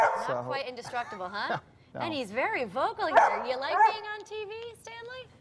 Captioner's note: dog barking